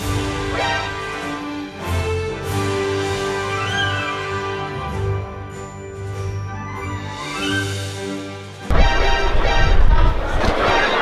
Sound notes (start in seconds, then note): 0.5 Metal Gear Solid ! sound effect; 8.7 series of Metal Gear Solid ! sound effects